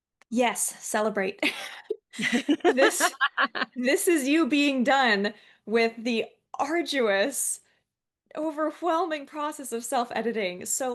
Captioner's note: both laughing